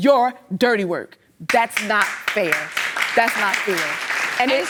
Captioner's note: audience clapping